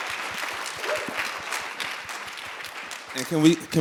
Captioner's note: applause